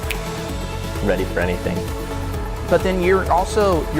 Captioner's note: snaps fingers